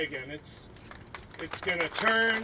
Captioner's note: applauding